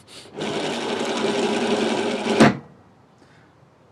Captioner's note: wheel rotates